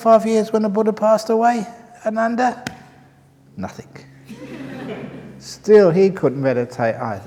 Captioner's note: snaps his fingers; laughter